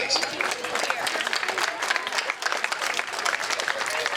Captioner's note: crowd clapping